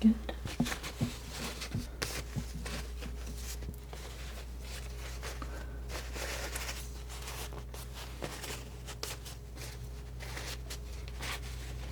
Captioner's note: scratching